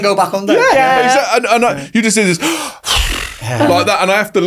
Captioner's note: sighs